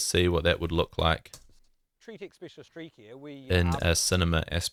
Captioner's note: interview playing